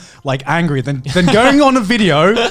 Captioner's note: Joey laughing